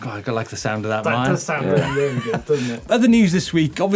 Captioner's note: laughs